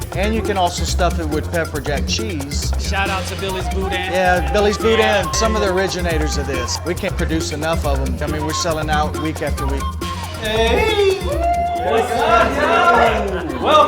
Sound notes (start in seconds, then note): 10.8 yells